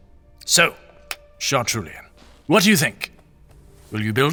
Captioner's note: sighing